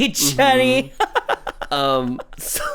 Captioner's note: laughs